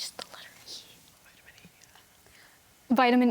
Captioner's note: whispering; whispers